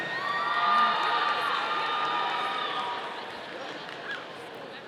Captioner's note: audience cheering